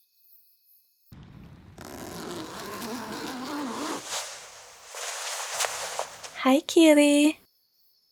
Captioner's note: zipper